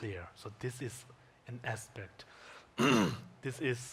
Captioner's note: clears throat